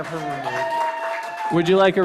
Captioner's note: cheers, applause